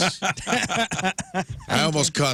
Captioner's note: laughing